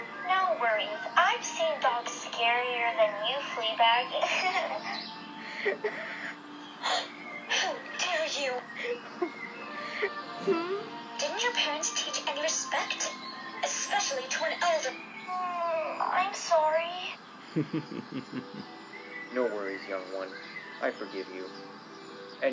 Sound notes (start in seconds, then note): 5.4 giggles; 7.0 gasps in shock and anger; 8.7 giggles; 15.7 whines in guilt; 17.5 chuckles